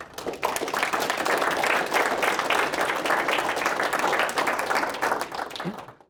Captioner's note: applause